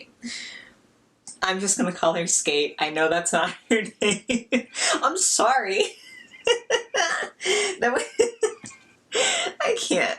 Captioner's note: laughs